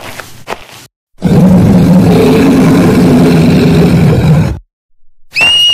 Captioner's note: Roar